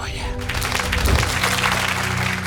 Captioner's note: audience applauds